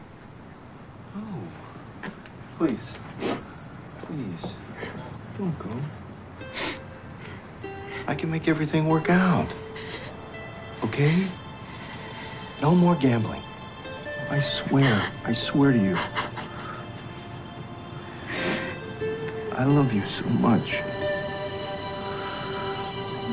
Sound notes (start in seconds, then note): 17.2 sobbing